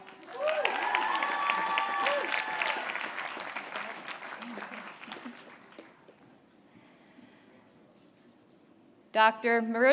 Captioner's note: applause